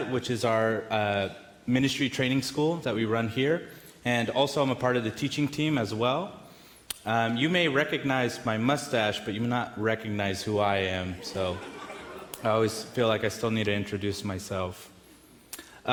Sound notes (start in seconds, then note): 11.2 audience laughs